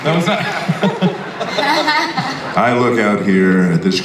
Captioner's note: panel laughs